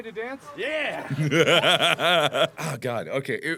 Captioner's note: laughs